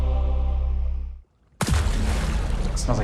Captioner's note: water splashing